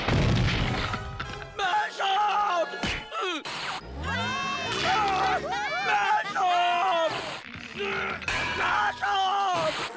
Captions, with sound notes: Ma jambe! (Screaming) Ma jambe! Ma jambe!